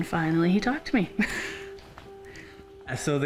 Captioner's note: laughs